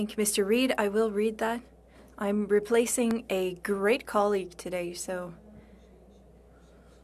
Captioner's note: speaking French